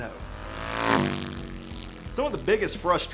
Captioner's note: engine revving